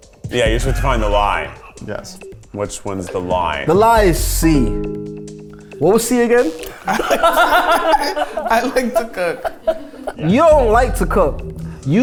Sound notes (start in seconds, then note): 6.6 everyone laughs